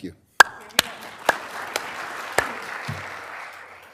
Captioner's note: applause